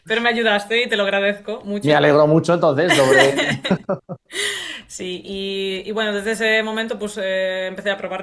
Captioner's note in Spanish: risas